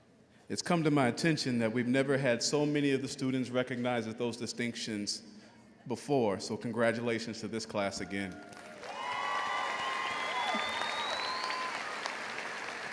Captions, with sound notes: - It is come to my attention that we've never had so many of the students recognize those distinctions before. So congratulations to this class again. (all applauds)